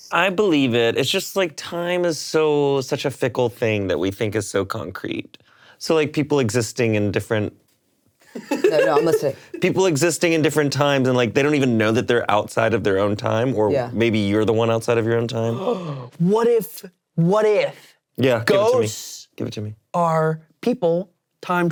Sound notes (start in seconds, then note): 8.3 laughing; 15.5 gasps